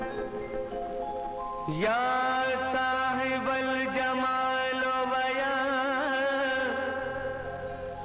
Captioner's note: Speaking Urdu